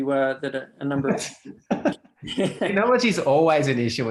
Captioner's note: laughs